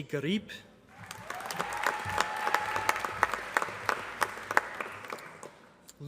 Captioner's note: applause